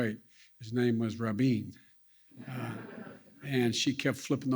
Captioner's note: laughter